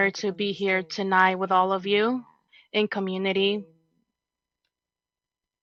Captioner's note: speaking in native tongue